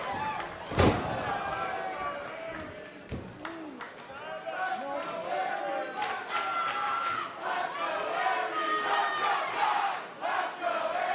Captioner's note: crowd cheering